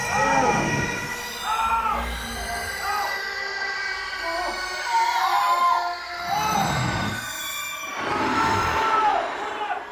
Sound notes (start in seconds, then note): 0.1 Rebecca grunts, inhuman, otherworldly; 1.4 Shane and Nigel scream in pain; 4.8 Sarah screams in pain, labor pains; 8.3 creature groans